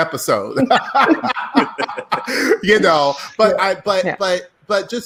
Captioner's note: laughing loudly